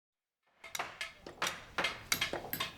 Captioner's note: construction noises